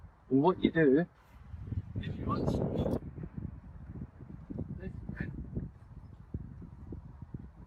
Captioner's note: extreme wind noise